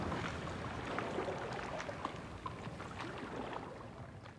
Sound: waves lapping

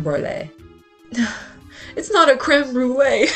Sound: annoyed sigh

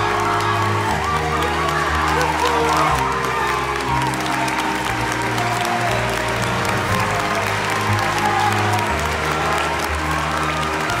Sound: cheering and applause

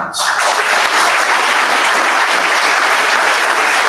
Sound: audience applauds

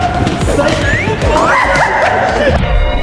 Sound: laughing

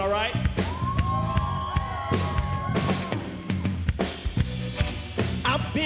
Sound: crowd cheers

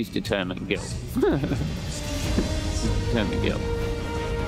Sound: laughs

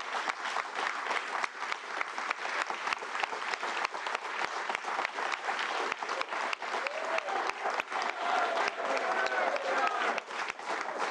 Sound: cheers

